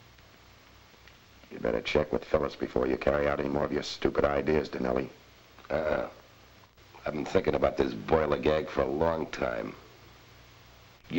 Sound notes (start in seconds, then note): none